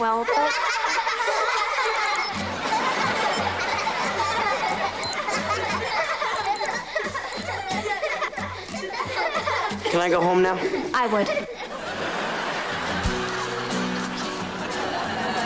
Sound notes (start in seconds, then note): 0.3 laughing; 4.3 laughing, beeping; 6.6 laughing